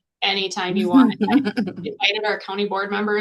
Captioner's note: laughter